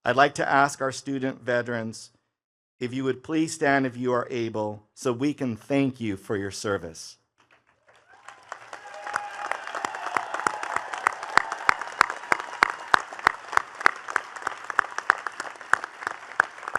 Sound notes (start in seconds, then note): 7.6 attendees cheering and clapping